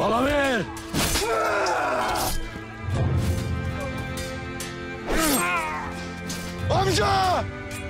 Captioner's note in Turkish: Bağırma ve vuruşma sesleri